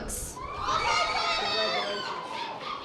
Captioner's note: audience applause